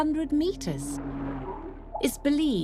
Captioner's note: humpbacks vocalising